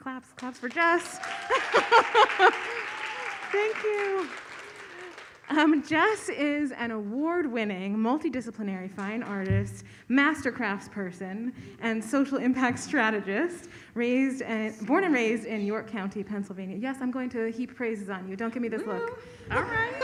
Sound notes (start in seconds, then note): 0.4 audience applauds; 1.2 laughs